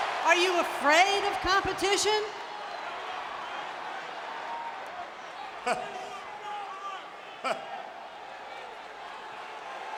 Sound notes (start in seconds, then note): 5.4 Vince chuckling